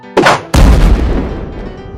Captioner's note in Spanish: Explosión